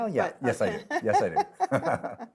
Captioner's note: laughs